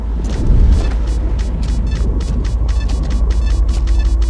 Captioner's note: meter beeping rapidly